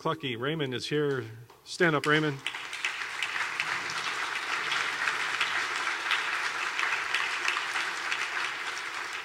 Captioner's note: clapping